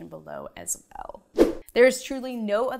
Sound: animation whooshes

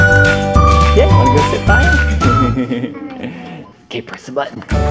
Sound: chuckles

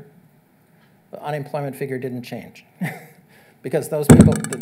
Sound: chuckles

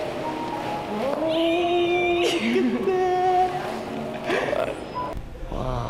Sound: squealing

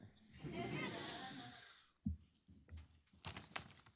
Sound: laughter

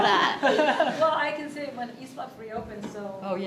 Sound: people laughing

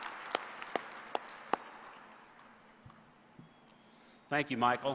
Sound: applause

